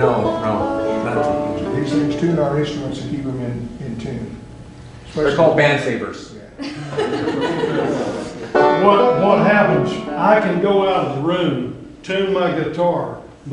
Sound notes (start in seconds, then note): 6.6 laughter